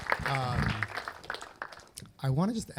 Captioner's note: applause